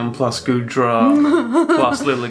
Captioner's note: laughs